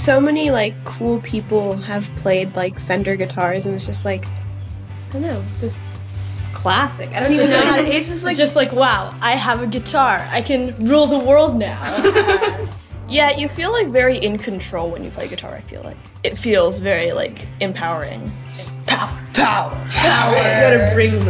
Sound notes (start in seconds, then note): 11.8 laughs